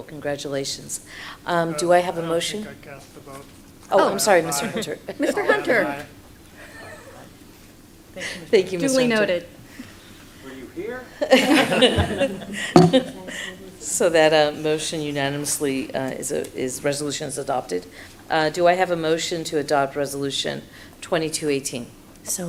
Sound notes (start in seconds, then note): 6.5 laughs; 11.2 laughter